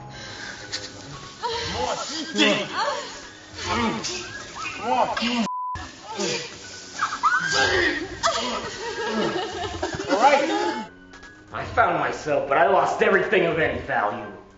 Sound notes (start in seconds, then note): 3.5 grunting; 9.4 woman crying